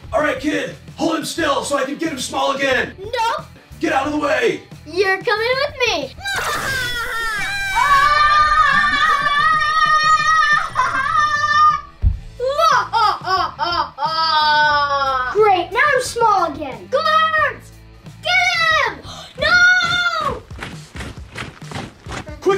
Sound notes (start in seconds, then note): 8.8 scuffling; 19.4 soldiers marching